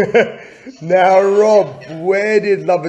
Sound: laughter

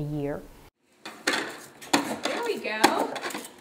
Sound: slinky clattering

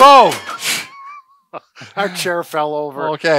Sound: both chuckle

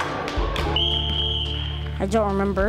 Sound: whistle blows

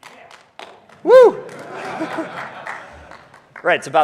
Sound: laughs

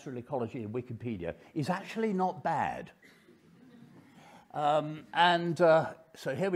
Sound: audience laughing

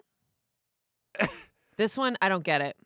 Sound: laughs

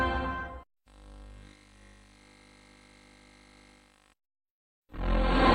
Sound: VHS static; 90s digital synth music plays

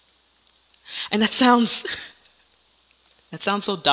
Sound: Myrtilla laughs

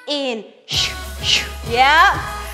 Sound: sighs

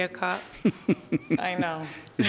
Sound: judge laughs

